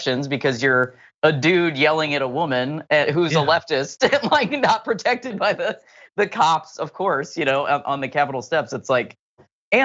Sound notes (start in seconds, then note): 3.2 laugh